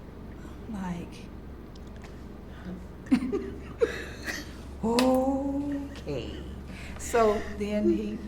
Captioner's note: laughs